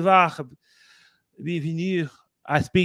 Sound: speaking french

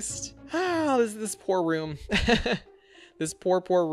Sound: sighs; laughs

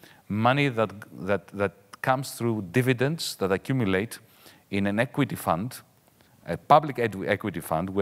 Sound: none

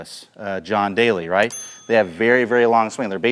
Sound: bell dings

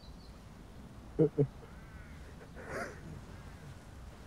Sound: sobbing

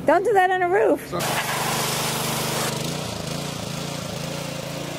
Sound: motor running

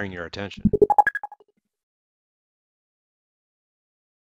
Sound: alert rings

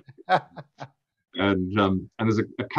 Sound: laughs

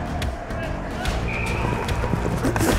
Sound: whistle

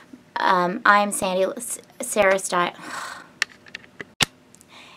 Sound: sighs

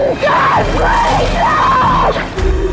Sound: woman screaming

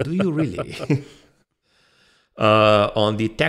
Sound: both laughs slightly

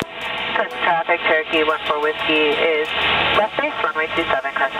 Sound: air Traffic

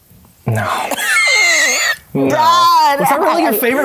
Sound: laughs

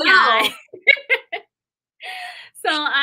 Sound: laughter

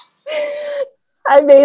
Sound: laughs

